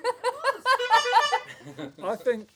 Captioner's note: laughs; honking